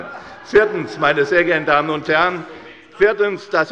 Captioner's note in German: Lachen bei Abgeordneten der FDP